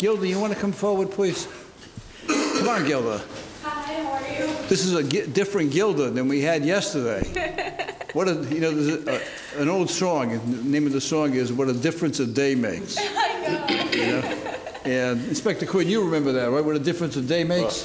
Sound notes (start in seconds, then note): 7.2 laughing; 13.0 laughing